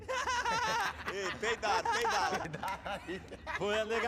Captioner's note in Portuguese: risos